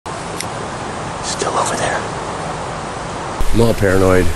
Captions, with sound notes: (whispering) He's still over there! I'm all paranoid.